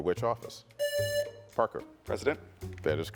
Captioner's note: buzzer buzzing